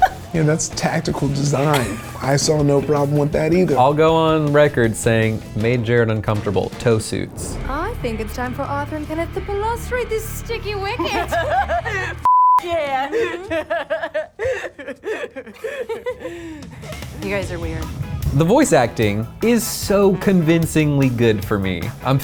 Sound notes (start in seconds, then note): 10.9 laughs; 12.2 beep; 12.6 laughs